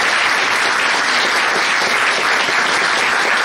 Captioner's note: cheering